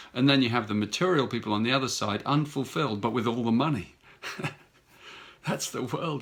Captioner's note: chuckles